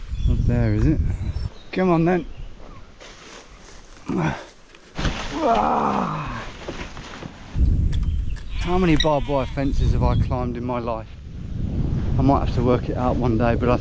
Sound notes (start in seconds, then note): 4.0 grunts